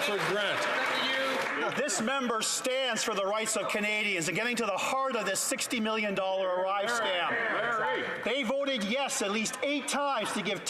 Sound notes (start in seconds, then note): 2.3 some Applause